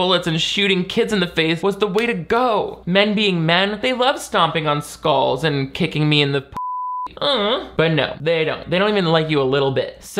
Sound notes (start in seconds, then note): 6.6 beep; 7.2 moans